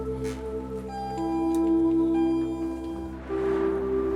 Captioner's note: Campainha de elevador; Carro passando